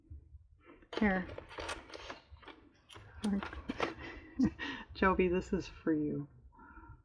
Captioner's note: laughs